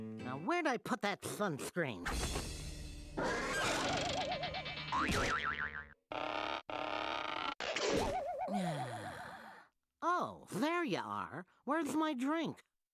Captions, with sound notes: NOW WHERE'D I PUT THAT SUNSCREEN? [roaring] [spring pinging] [sighing] OH, THERE YOU ARE. WHERE'S MY DRINK?